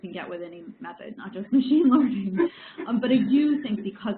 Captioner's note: laughs